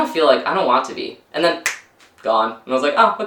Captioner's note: snaps